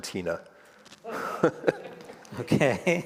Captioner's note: all laugh